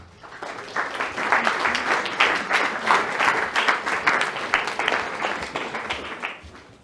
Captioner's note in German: Applaus